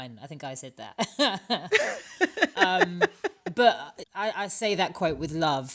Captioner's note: laughter